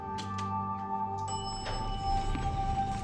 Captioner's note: elevator pings